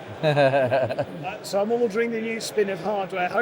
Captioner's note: laughing